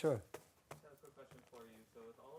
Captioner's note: voiceover